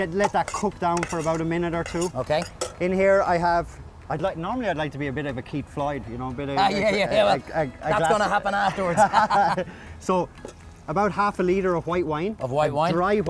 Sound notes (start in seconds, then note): 6.4 stammers; 7.9 both laugh